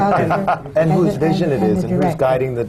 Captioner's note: laughter